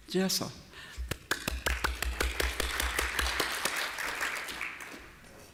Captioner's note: applause